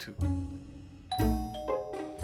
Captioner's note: doorbell rings